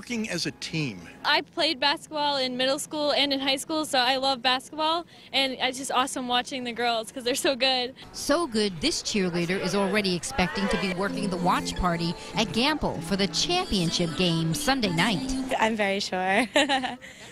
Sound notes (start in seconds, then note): 13.6 laugh